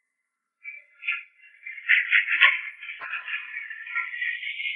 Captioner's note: hooves clopping